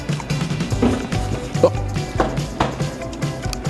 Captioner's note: foot stomps